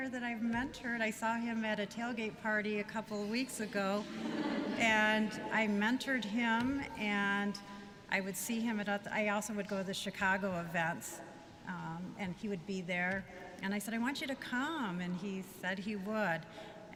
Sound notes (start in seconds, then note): 3.9 laughter